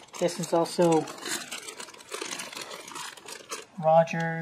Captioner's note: sound of crinkling plastic